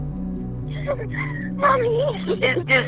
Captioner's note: sobs